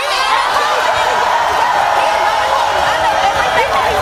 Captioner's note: audience cheering